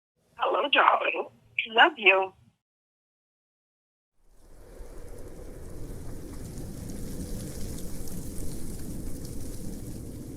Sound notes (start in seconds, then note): 5.2 raindrops patter; 7.1 wind whooshing